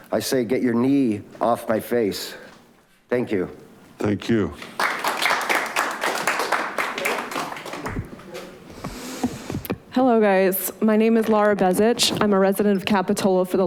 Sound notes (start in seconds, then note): 4.6 audience applauding